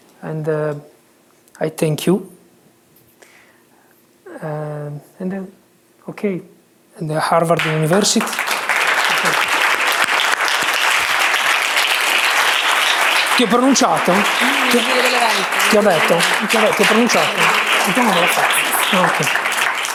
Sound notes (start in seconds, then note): 8.5 applause; 12.7 speaking italian